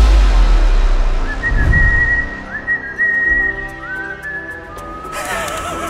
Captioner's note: whistle; creepy laugh